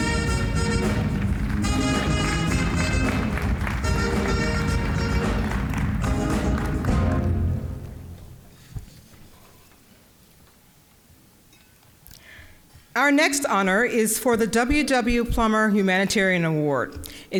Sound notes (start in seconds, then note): 2.9 applause; 2.9 upbeat jazz music